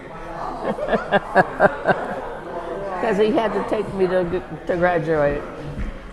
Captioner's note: laughs